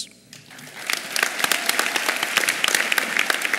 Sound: applause

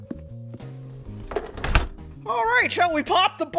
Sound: sound of door closing

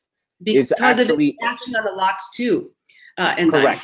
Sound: voice muffled

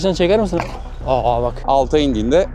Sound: roaring sound

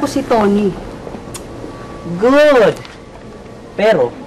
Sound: clicks tongue

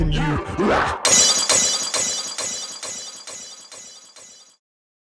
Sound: glass Smashing

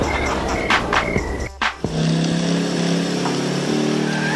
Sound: engine revs

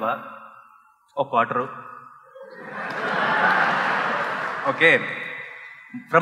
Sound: laughter

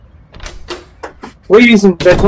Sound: door opening

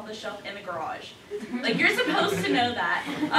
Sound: laughter

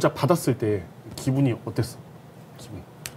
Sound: in Korean

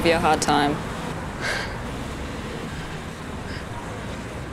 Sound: exhales

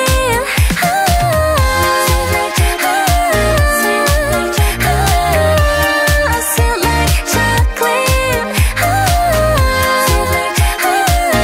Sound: ohhhh

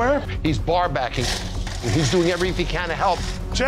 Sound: ice rattling

